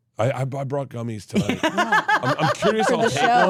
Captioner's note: laughs